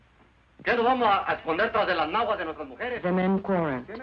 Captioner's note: man speaking Spanish